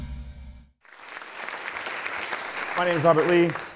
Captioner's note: audience applause